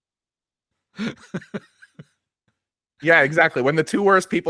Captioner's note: laughs